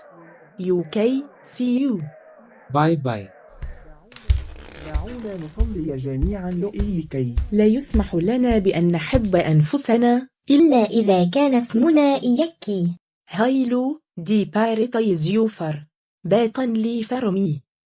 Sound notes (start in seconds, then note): 3.5 Hassan and Lisa speaking Arabic